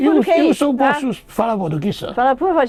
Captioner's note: speak portuguese